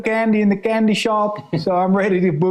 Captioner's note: laughing